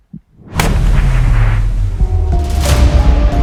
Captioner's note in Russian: выстрел